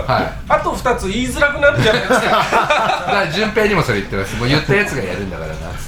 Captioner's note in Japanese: 笑い